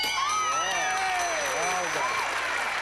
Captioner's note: cheering